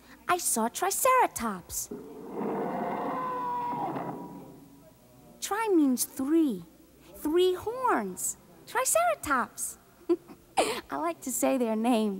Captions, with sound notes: I saw Triceratops. (dinosaur roaring) Tri means three. Three horns, Triceratops. I like to say their names.